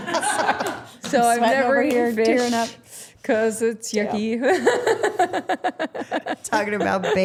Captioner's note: laughing